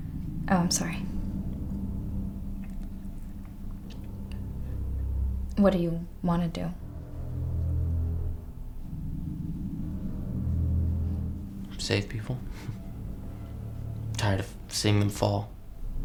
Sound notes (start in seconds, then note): none